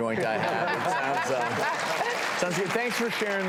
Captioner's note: audience laughing and clapping